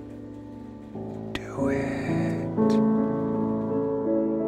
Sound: whispers

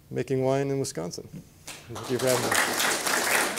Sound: applause

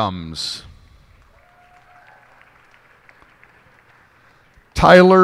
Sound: cheers and applause

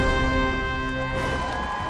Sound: cheering; dramatic music

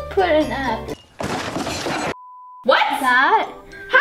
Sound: crashing

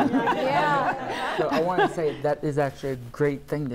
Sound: laughter

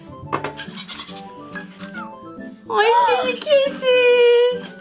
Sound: Fingerling chuckles

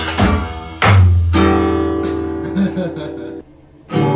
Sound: giggling

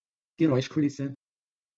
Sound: fast Pronunciation

